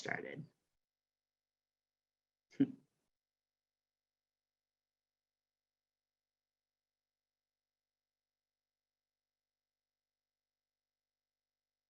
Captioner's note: silence